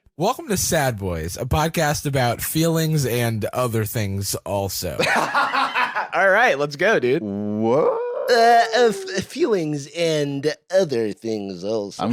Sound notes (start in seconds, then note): 5.0 laughs